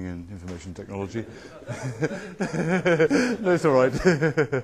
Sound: laughter

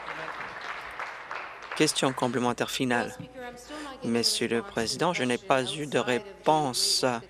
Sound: applause

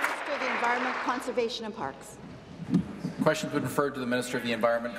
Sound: applause

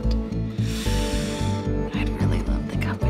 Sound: Amber inhales deeply

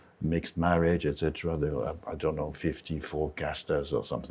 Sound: speaks in Spanish

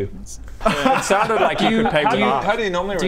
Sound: unsupportive laughter

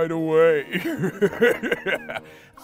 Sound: laughs nefariously

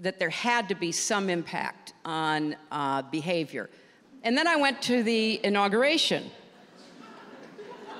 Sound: laughter

